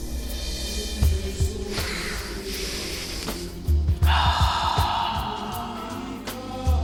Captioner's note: sniffs and Exhales